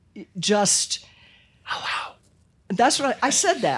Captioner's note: whispers